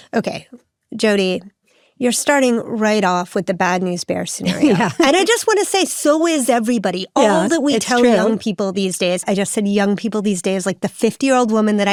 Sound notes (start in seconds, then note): 4.4 chuckles